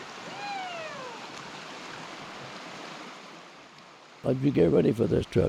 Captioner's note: water rushing